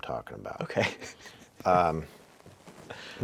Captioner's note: laughing